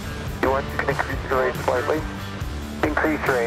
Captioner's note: radio chatter continues